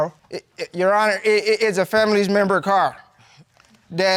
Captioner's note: stammers